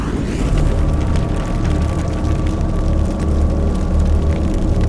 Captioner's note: crackling flame